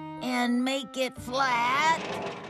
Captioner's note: none